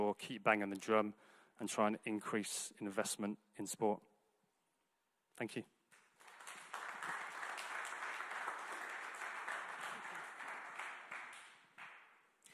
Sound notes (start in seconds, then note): 5.9 audience clapping